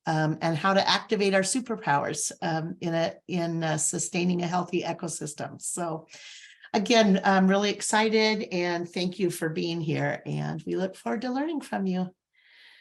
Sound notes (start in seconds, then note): none